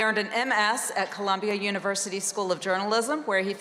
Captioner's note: none